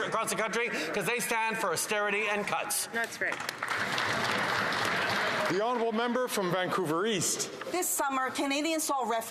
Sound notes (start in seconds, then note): 6.7 some Applause